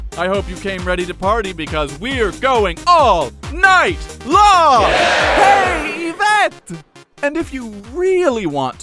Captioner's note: cheers from crowd